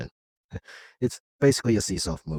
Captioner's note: gasp